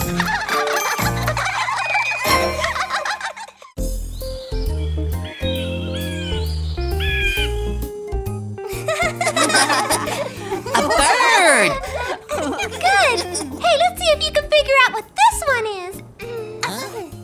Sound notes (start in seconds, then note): 0.0 triplets laughing; 3.9 birds chirping; 4.2 gentle music; 8.7 children laughing